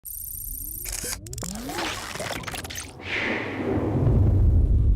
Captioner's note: computerized clicking loudly